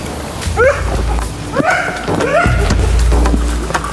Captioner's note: screams